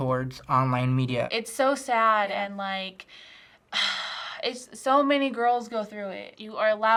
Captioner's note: sighs